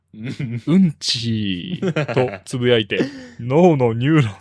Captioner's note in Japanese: 笑い